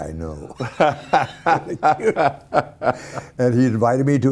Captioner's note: laughing